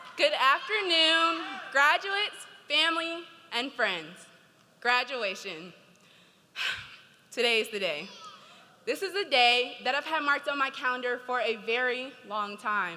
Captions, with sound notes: - Good afternoon, graduates, family, and friends. Graduation, (sighs) today is the day. This is the day that I've had marked on my calendar for a very long time.